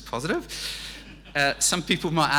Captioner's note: audience laughing